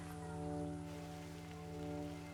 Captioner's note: village sounds